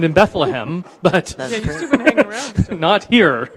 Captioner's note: indistinct chatters